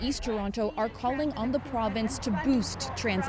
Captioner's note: chanting